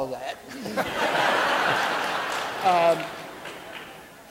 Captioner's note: audience laughing